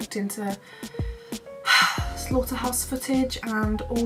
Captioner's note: sigh